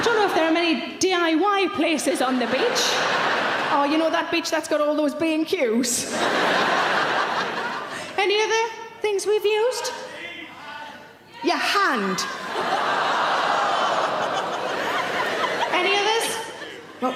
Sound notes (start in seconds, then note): 0.0 audience laughing; 2.0 audience laughing; 6.0 audience laughing; 12.3 audience laughing; 12.5 audience gasp